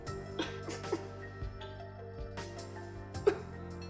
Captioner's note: crying